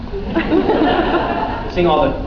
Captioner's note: laughs